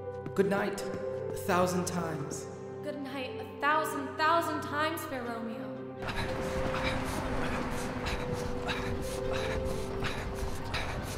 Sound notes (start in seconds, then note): 6.0 traffic murmuring; 7.8 grunting